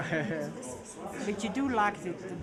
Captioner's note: attendee laughing